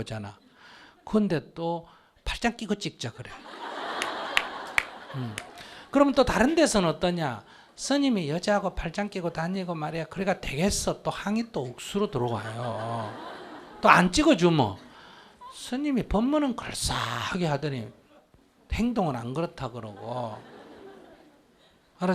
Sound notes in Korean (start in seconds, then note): 3.4 청중 웃음